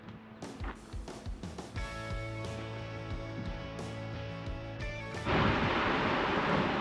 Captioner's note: wind blowing; soft music